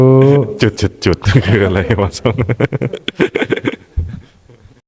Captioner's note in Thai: เสียงหัวเราะ